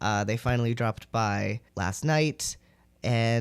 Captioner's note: none